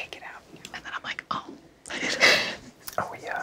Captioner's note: laughs